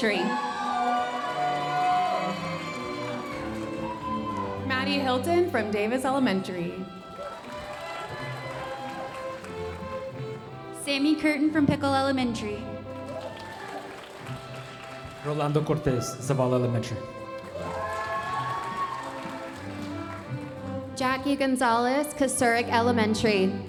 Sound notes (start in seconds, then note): 0.0 audience cheering and applauding; 7.7 audience applauding; 13.3 audience applauding; 18.5 audience applauding